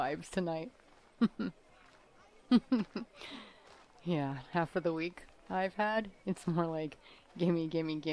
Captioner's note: laughs